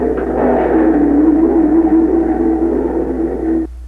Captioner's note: engines roaring